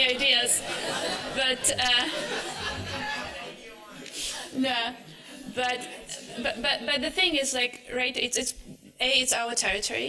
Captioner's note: laughter